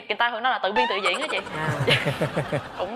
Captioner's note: chuckles